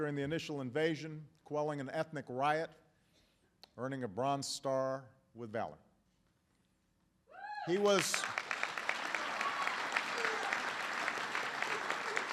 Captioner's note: applause